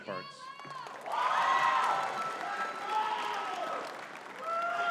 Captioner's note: audience cheering and clapping